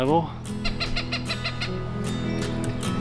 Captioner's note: birds calling